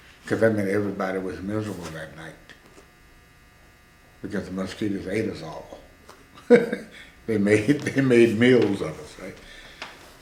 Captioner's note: laughs